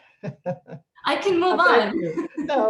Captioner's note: laughter